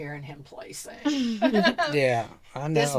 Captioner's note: laughing